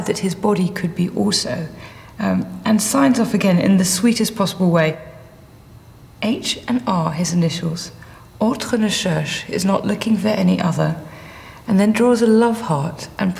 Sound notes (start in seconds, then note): 8.5 speaks in foreign language